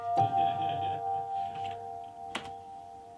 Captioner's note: laughs; gentle music